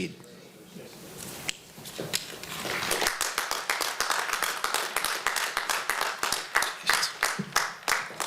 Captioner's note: applause